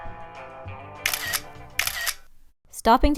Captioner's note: picture sound